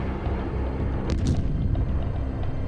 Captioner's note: explosion